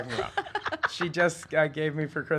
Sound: laughing

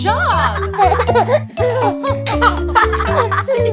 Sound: laughing

